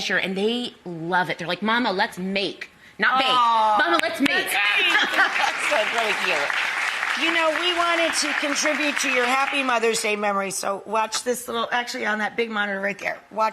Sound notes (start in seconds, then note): 4.2 audience applauding